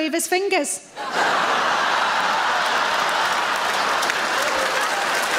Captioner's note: audience laughs and applauds